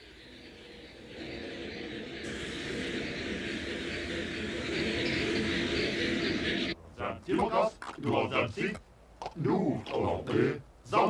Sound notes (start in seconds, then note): 4.4 eerie humming; 6.8 speaking alien language